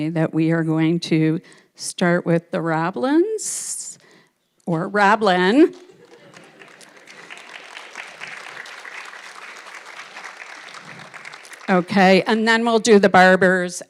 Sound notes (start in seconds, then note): 5.6 audience clapping